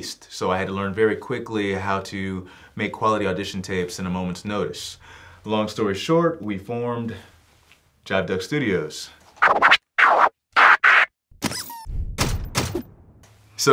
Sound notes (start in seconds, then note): 9.4 record scratching; 10.6 duck squeaking